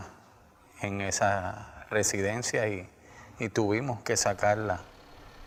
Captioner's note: speaking spanish